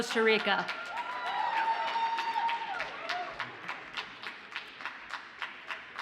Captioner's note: audience cheers and applauds